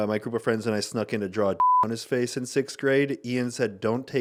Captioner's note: beep